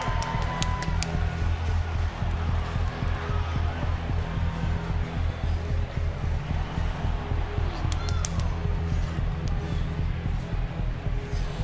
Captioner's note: crowd cheers